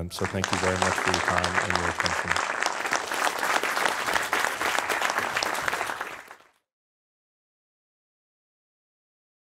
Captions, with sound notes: So thank you very much for your time and your attention. (audience applauding)